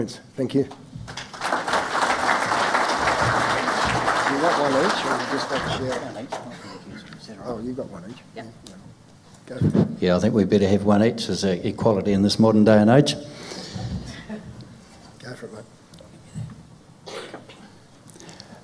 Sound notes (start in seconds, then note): 1.0 crowd applause